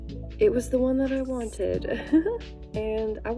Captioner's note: laughs